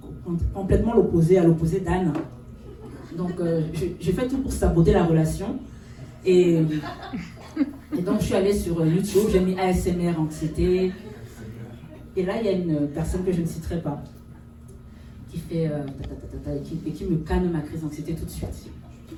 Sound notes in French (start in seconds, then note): 6.7 rires